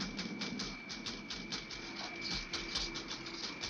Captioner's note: woman typing